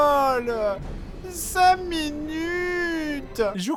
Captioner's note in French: voix plaintive